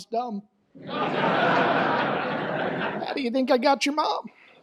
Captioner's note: audience laughs